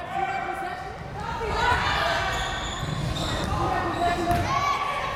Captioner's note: crowd members shouting